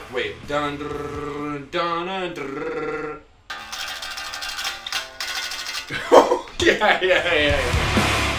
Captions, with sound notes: Wait, dun-drrrr-duh-nuh-drrrr. (laughing) Yeah, yeah, yeah.